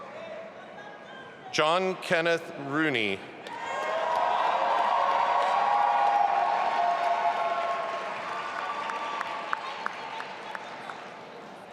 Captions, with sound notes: John Kenneth Rooney. (audience applauding and cheering)